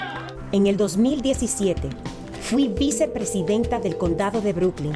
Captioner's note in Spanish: speaks in foreign language